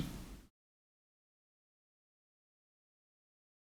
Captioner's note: silence